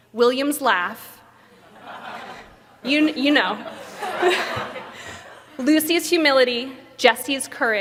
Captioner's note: laughter